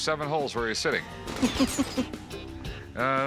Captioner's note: laughs